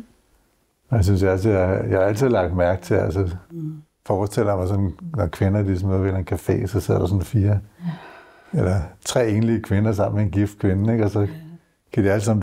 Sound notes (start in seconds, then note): none